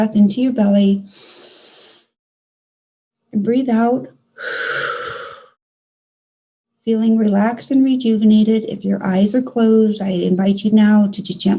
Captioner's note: exhale